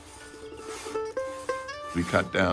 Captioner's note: saw scrapping